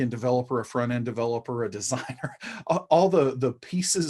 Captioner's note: chuckling